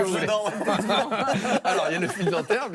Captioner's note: laughter